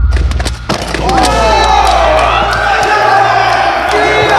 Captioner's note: all cheering